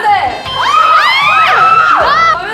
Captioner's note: arrrrrghh